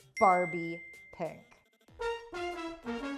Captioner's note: iPhone ping; trumpet sound